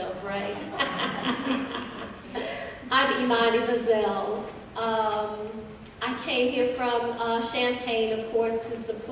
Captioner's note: laughter